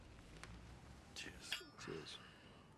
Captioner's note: glasses clinking